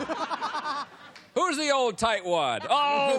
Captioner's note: laughter